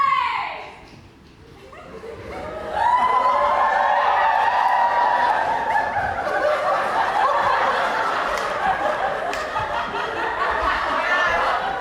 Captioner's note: audience laughs and cheers